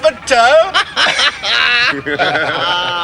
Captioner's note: all laughing